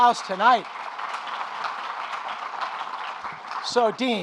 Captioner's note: audience applauding